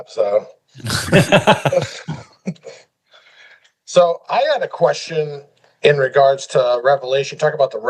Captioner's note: laughing